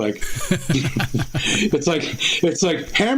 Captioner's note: laughter